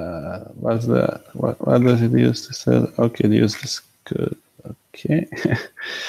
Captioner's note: laughs